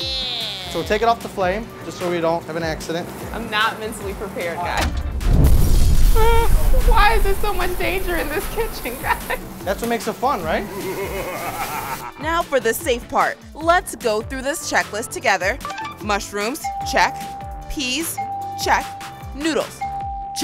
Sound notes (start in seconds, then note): 5.0 explosion sfx; 10.5 maniacal laughing